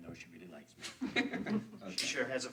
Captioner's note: friends laugh